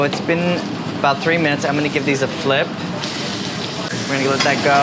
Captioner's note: sizzling